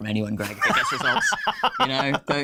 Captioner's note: laughing